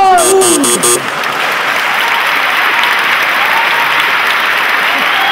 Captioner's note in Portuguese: campainha e aplausos